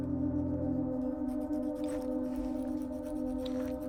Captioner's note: filing nails